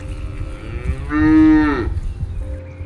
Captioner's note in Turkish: İnek Sesi